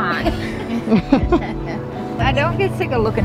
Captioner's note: laughter